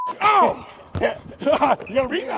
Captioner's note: laughter